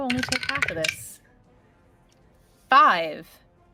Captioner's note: dice rolling